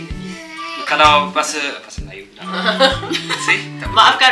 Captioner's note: laugh